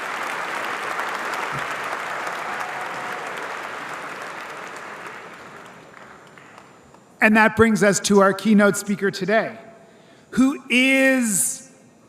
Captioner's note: cheers and applause